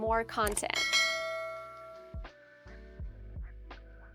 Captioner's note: bell dings